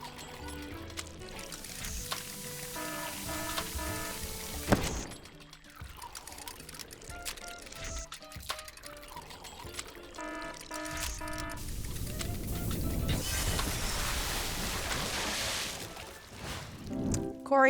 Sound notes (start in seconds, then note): 0.0 machine working; 2.5 alarm sounding; 4.7 explosion; 7.8 machine working; 10.1 alarm sounding; 13.2 lab exploding